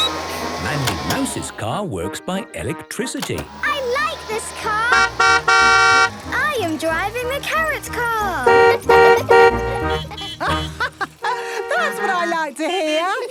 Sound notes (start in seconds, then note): 5.1 honking; 8.5 honking; 9.2 horns honking; 10.3 laughing